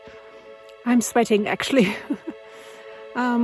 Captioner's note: laughs